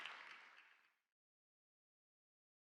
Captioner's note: audience applauds